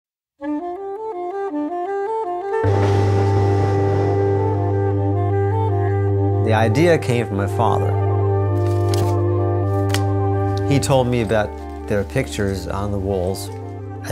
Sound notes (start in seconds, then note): 0.7 jazzy music; 2.6 train running